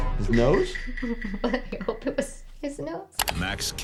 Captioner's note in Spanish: Riéndose